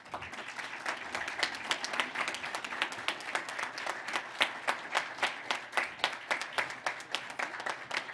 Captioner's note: applause